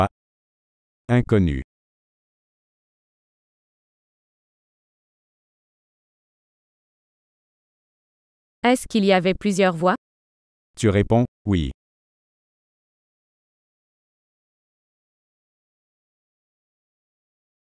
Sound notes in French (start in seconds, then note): 2.1 silence; 12.7 silence